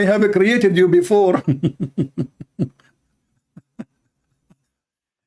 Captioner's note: Ketawa